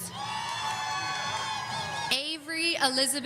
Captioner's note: audience cheering